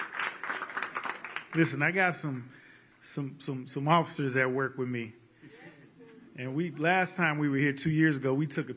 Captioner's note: cheers